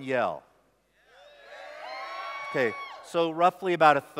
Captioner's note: shouts